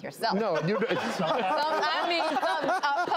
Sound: laughing

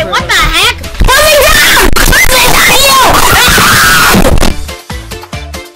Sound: yelling and screaming

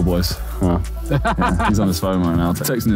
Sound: Ethan laughing

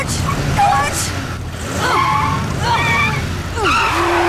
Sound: groaning; honking

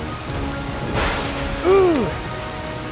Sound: thundering

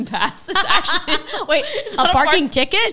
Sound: laughing

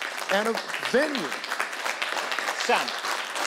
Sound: audience applauding

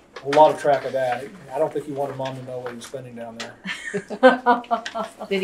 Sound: laughter

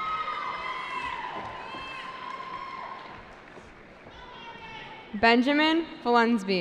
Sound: cheering

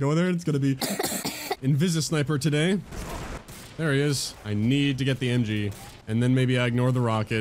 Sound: rapid coughing

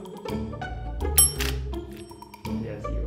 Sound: bell dinging

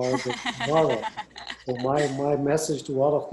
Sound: laughing

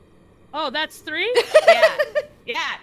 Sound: laugh

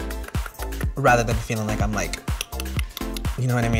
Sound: tongue clicks; tongue clicks

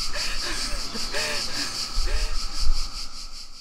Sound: woman gasps

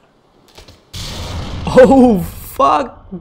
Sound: multiple rockets fire

